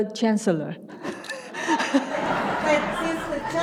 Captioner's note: audience laughs